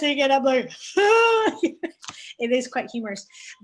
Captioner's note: yelling